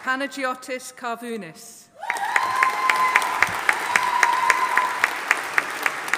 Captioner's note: audience applauding